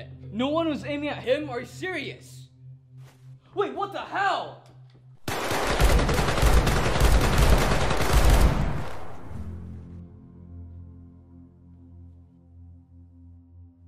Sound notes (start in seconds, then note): 5.2 very gruesome shooting